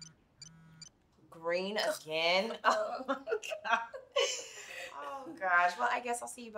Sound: chuckling

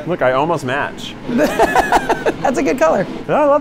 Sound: laughing

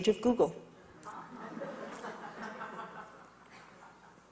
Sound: audience laughs

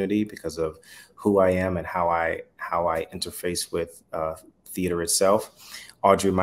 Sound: none

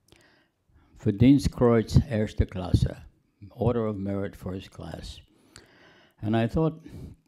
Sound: speaking german

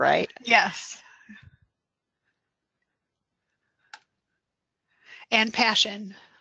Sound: silence

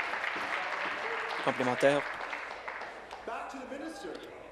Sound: voice trailing; applause

